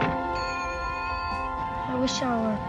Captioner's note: pounding; bell chimes